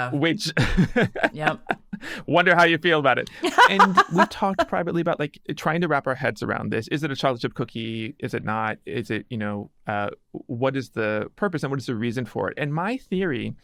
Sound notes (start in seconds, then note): 3.3 person laughing